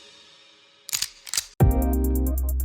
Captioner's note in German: Klacken